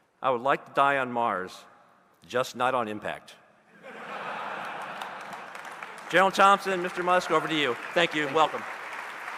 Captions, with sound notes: "I would like to die on Mars, just not on impact." (audience laughing and applauding) General Thompson, Mr. Musk, over to you. Thank you and welcome.